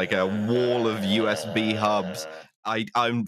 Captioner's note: groans quietly